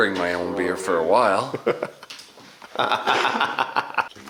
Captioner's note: laughing